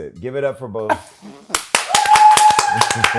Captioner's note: clapping; laughs